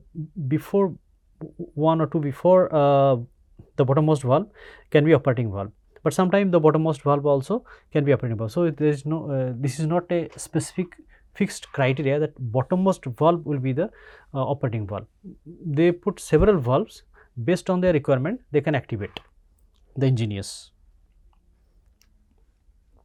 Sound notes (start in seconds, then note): 13.9 pwf